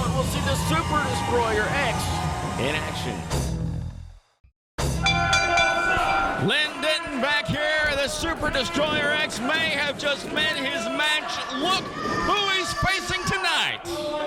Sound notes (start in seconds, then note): 3.1 ringing bass note; 4.9 bell rings